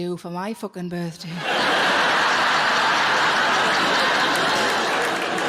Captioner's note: audience laughing